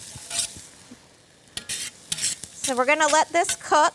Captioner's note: scraping